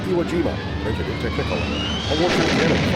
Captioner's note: machine-gun fire